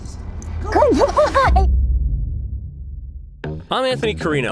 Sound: laughs

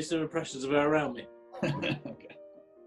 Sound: chuckling

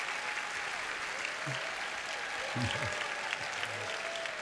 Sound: applause

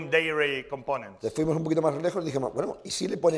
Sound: speaking spanish

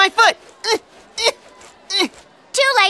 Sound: grunting

